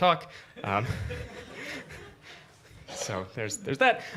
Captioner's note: laughter